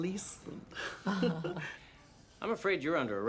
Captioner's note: friends chuckling